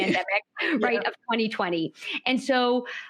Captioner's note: chuckles